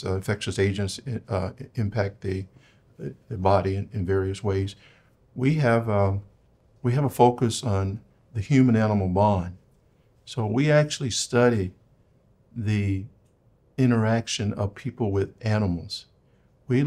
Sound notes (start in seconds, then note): none